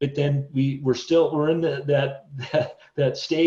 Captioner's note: chuckles